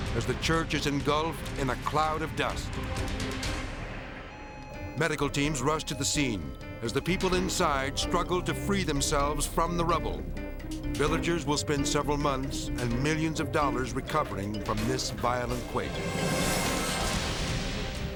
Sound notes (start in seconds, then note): 2.9 dramatic music; 4.3 sirens blaring; 16.0 edgy dramatic music